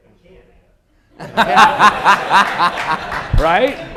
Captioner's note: laughter